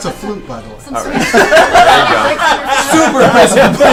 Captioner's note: all laugh